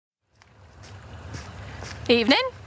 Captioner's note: footsteps